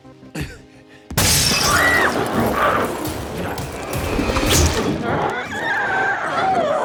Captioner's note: glass shatters; Chalee screams; glowzie shrieks